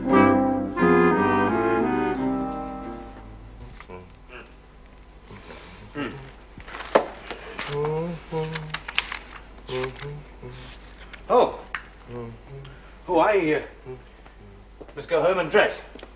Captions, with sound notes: (Hums) Oh. Oh, l must go home and dress.